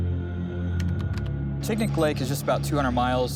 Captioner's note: keyboard clatters